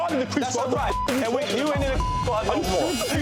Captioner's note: beep